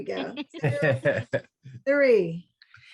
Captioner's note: laughs